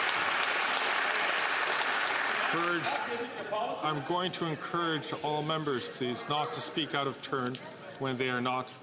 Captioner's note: some Applause